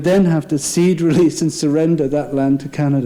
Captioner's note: laughing